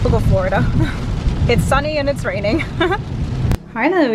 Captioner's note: chuckles